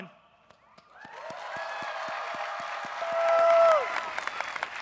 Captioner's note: people cheering